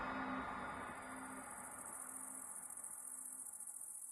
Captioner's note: forest din